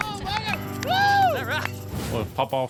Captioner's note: claps